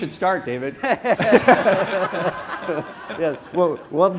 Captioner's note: laughter